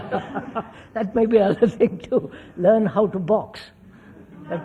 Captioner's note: laughs